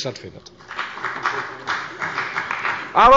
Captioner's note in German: Beifall bei der FDP und bei Abgeordneten der CDU